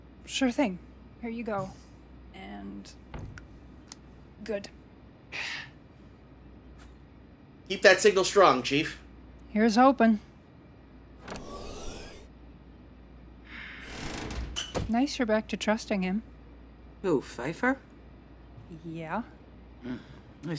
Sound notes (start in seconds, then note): 11.2 door opening